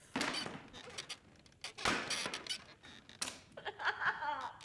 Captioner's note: chair creaking